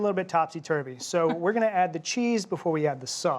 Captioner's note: chuckling